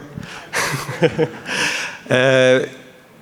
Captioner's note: laughter